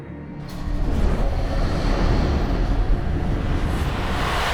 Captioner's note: magical buzzing